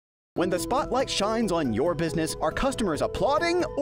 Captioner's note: voice-over